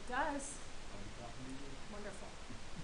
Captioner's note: man speaking